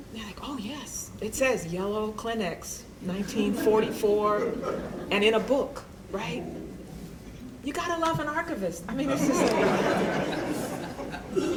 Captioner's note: laughter